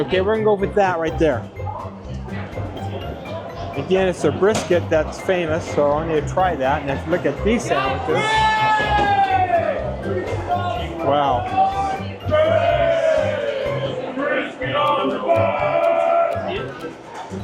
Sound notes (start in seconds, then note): 8.1 A LOT more ear-splitting YELLING from staff; 11.9 loud shouting from rest of staff in passive agreement